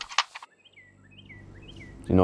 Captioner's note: bird chirping